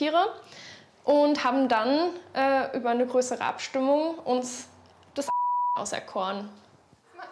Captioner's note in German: Piep